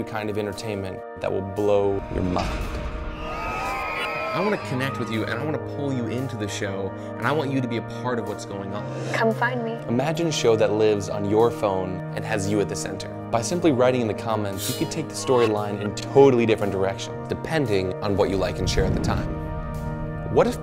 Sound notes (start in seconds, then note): 3.2 cheering